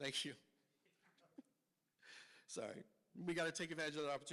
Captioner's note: laughs